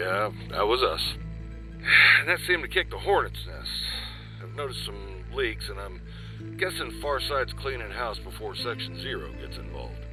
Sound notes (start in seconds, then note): 1.8 sigh